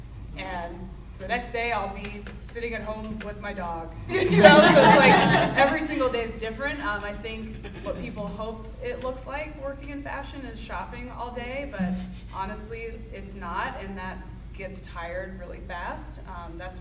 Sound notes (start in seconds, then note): 4.1 audience laughing